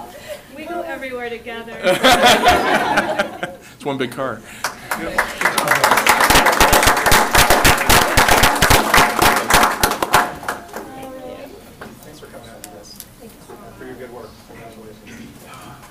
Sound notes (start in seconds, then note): 1.8 laughter; 7.1 applause